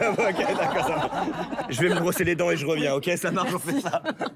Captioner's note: laughter